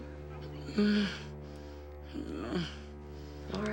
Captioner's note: Lilly groans